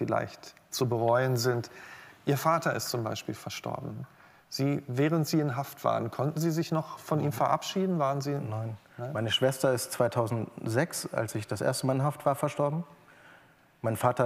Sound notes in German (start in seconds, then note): none